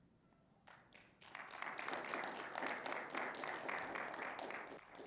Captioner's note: audience clapping